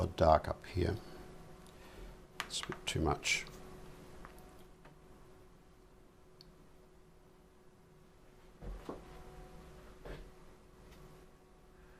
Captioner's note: silence